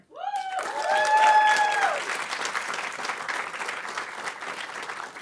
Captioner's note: audience applauding